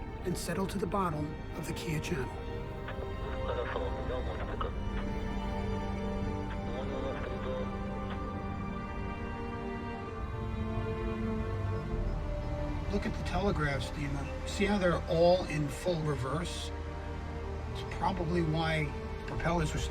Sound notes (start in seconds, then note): 3.6 Dmitry speaking in foreign language; 6.8 Bob speaking in foreign language; 9.5 somber music